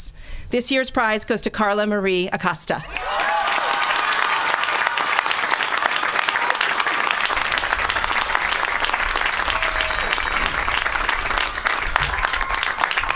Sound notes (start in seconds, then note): 4.7 applause